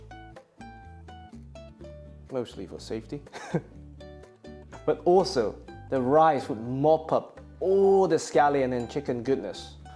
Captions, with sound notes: Mostly for safety. [chuckles] But also the rice would mop up all the scallion and chicken goodness.